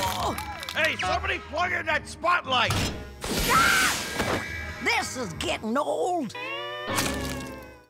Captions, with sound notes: Hey, somebody fire that spotlight! [screaming] This is getting old.